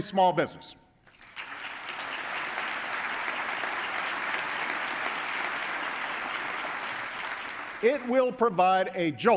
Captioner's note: applause